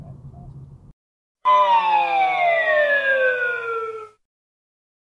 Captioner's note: bankruptcy sound